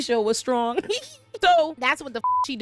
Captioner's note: laughs